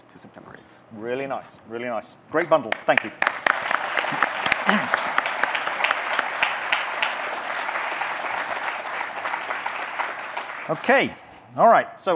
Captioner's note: audience clapping